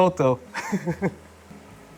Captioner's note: laughs